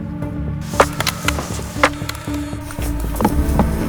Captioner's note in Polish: odgłosy rąbania